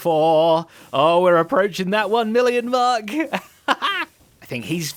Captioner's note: laughs